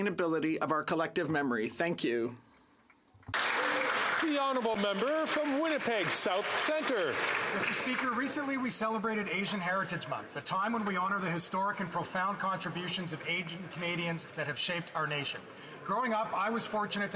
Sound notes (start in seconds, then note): 7.6 some Applause